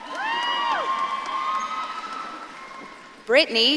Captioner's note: audience claps and cheers